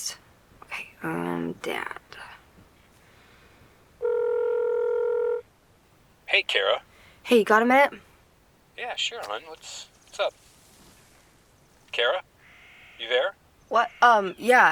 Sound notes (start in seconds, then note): 4.0 line ringing; 9.2 twig cracks